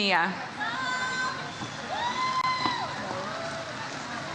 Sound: audience cheers

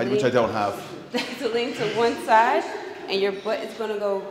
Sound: laugh

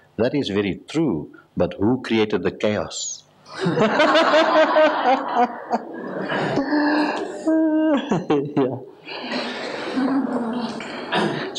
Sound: laughs

